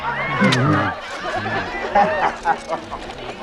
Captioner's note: man growling